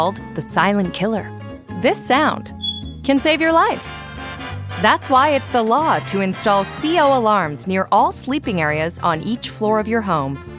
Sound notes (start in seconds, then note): 2.6 SFX: beeping